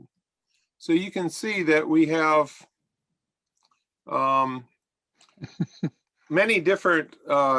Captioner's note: laughter